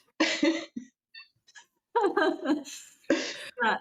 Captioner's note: laughter